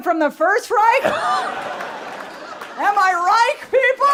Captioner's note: people laughing